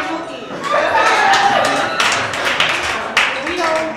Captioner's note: audience applause